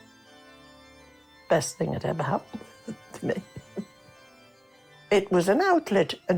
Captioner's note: chuckles